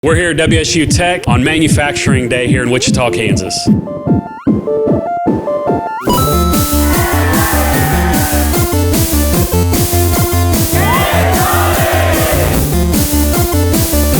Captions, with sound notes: - We're here at WSU Tech on Manufacturing Day here in Wichita, Kansas. (dramatic music) (upbeat music) (crowd cheering) - [Crowd] Get money!